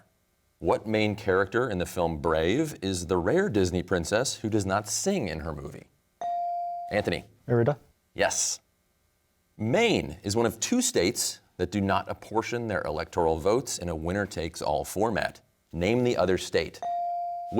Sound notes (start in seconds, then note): none